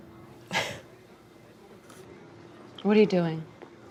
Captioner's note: laughs